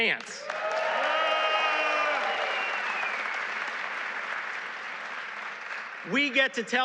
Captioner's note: applause